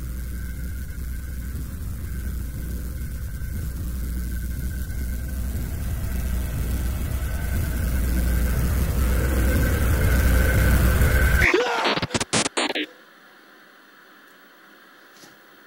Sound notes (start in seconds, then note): 8.2 loud dramatic music; 12.5 electronic noise